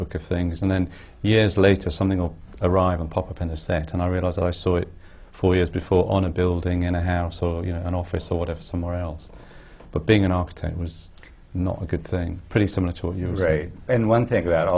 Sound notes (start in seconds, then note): none